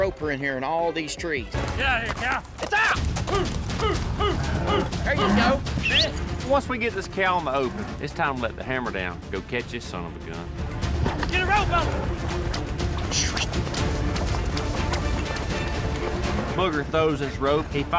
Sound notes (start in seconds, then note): 5.8 whistles